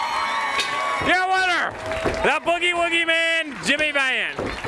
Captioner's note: crowd cheering